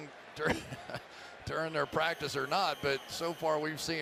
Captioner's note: chuckles